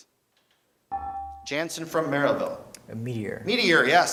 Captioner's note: beeping